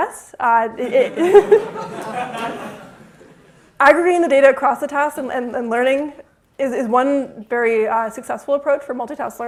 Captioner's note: laughter